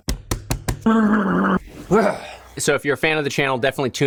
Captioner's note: groans